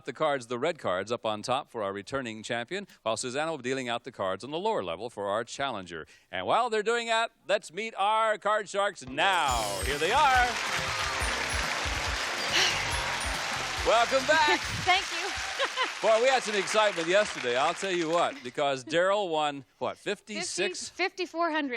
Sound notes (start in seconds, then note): 12.4 applause; 12.4 theme music playing